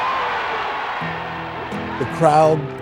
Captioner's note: crowd cheering